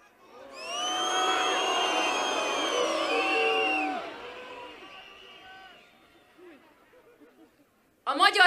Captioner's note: whistling